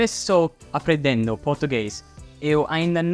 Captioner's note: in Portuguese